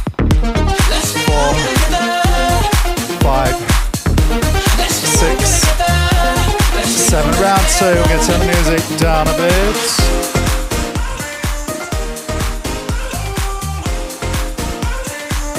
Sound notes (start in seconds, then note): 10.3 breathing heavily